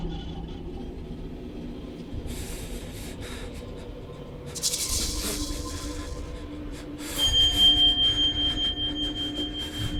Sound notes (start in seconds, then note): 2.3 Max whimpering; 7.2 elevator dings